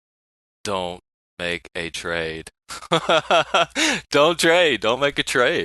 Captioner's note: laughing